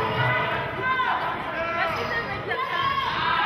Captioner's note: yelling